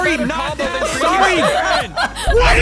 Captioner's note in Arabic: المشاركين يضحكون